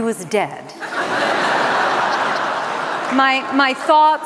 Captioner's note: laughter